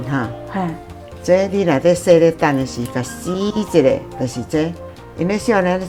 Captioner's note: Taiwanese